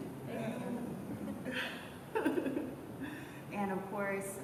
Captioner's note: laughter